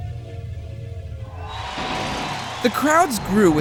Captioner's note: crowd cheering